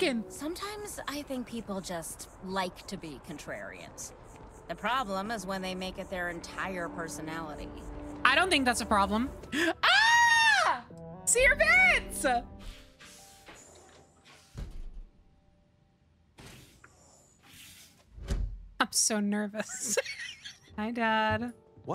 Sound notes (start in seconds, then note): 9.8 scream; 19.6 laughter